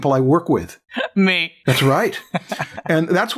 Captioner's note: laughs